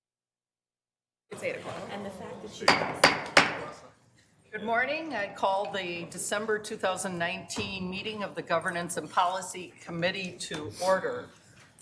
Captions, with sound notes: (gavel bangs) - Good morning, I call the December 2019 meeting of the Governance and Policy Committee to order.